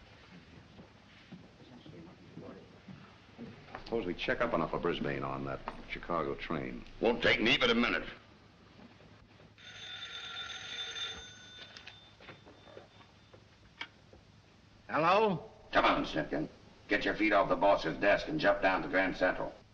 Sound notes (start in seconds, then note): 9.5 phone rings